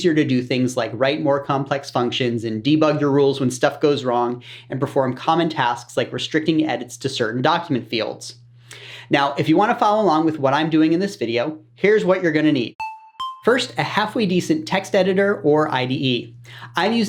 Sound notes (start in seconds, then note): 12.8 sound effect